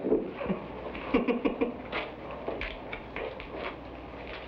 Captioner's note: man laughs